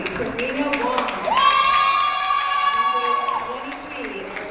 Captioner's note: crowd cheering